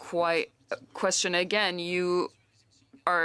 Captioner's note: speaking French